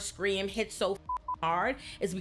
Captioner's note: beep